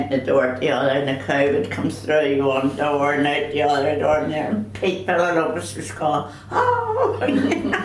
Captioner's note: all laugh